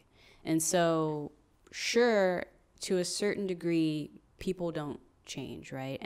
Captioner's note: none